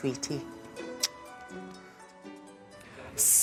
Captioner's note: blows kiss